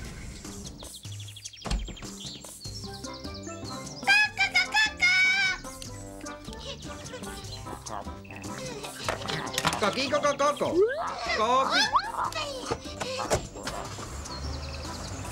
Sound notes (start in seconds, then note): 0.1 lighthearted music; 3.9 yelling happily